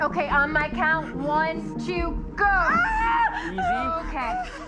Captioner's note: Louisa screams